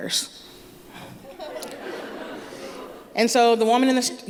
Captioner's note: laughter